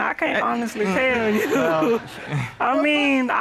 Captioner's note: audience laughing; chuckles